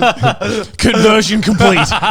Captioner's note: mimicking Anime tone; group laughs